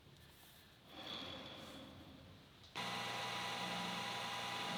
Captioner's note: machine whirring